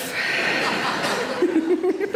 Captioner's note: audience laughs; Sarah laughs